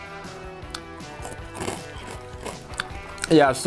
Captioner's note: chews